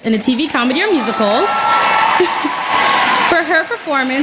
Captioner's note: cheering and Applause